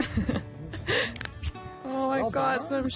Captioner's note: chuckles